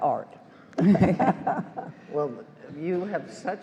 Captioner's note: all laugh